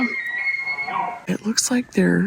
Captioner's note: loud elk bugle